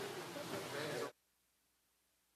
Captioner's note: speaking French